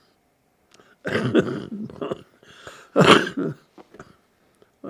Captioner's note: laughing